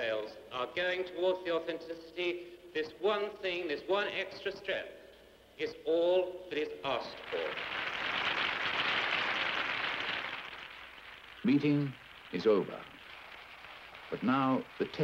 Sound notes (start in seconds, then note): 7.2 hands clapping